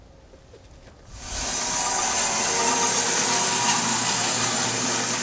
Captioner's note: slab master whirring